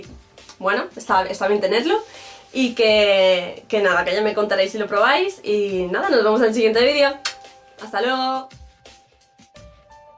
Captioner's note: kisses